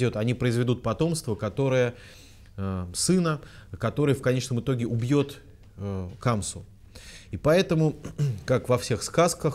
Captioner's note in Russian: откашлялся